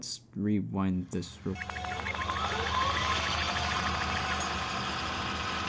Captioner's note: rewind Sound Effect